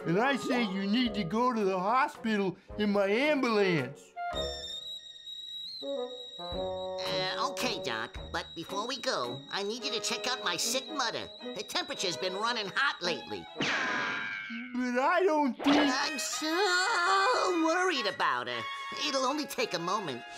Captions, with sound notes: And I say you need to go to the hospital in my ambulance. (kettle screeches) - Okay, doc, but before we go, I need you to check out my sick mother. Her temperature's been running hot lately. (Bugs whooshes) - But I don't think- - I'm so worried about her. It'll only take a moment.